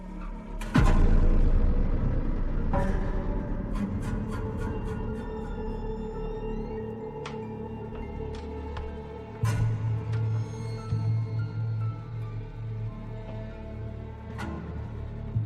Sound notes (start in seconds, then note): 0.1 sinister music; 5.0 door creaks